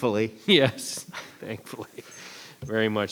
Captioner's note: chuckles